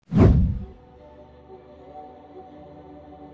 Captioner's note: whoosh Sound